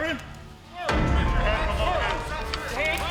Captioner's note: yelling